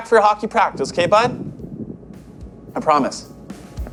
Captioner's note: thunder rumbling; light rock music